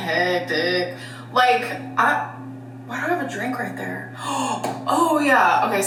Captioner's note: gasps